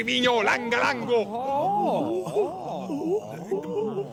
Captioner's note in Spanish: ranting in Silurian; surprised mumbles